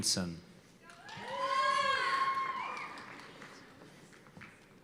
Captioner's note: cheers and applause